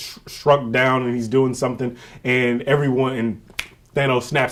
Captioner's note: fingers snap